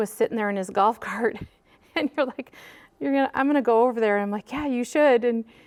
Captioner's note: laughs